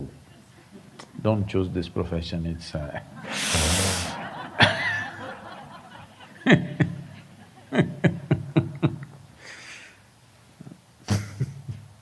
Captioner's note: laughter